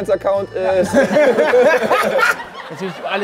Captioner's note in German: Lachen